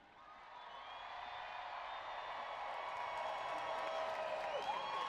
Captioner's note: audience cheering